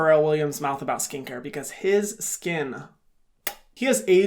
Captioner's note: smacks lips